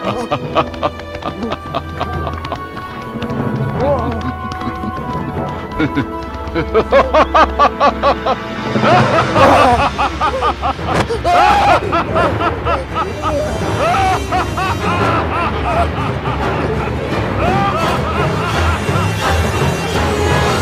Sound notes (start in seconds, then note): 3.1 music and laughter intensifies; 10.9 Ichabod screams; 13.8 music and laughter intensifies